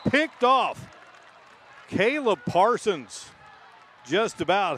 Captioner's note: applause